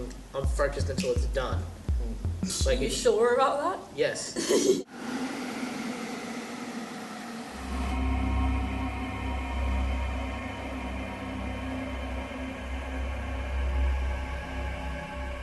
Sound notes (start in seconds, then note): 5.2 sound of the wind